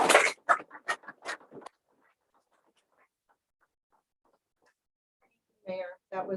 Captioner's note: applause